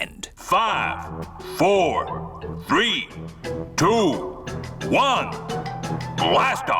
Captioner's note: on speakers